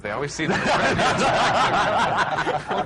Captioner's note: laughter